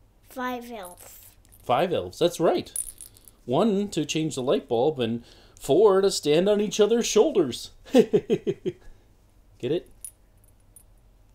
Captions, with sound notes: - Five elves. - Five elves? That's right. One to change the light bulb and four to stand on each other's shoulders. (laughs) Get it?